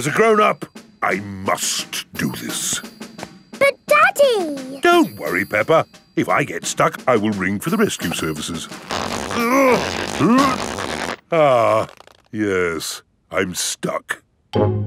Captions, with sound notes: As a grown-up, I must do this. But, Daddy! Don't worry, Peppa. If I get stuck, I will ring for the rescue services. (GRUNTING) Ah... Yes, I'm stuck.